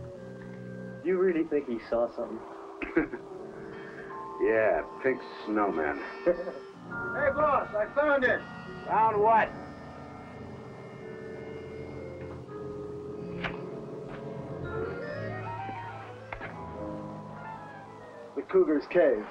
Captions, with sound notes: - Do you really think he saw something? - (laughs) Yeah, pink snowman. - Hey boss, I found it. - Found what? - The cougar's cave.